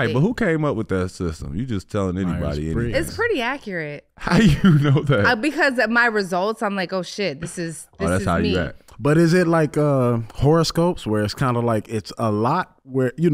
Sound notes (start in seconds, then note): 4.3 laughing